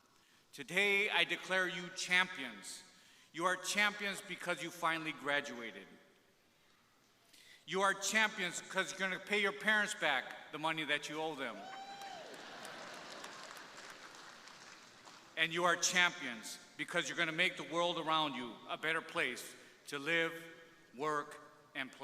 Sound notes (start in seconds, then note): 11.5 crowd cheering; 12.4 crowd laughing